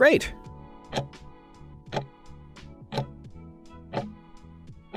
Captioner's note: timer ticking